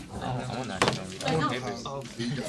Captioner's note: students murmur